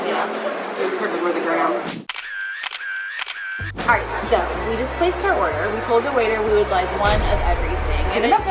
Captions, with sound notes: - Its pretty for the gram. (camera shutter sound) - So we just placed our order. We told the waiter, we would like one of everything.